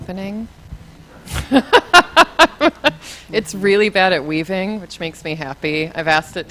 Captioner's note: laughs